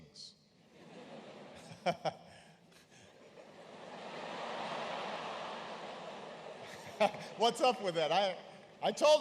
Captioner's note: laughter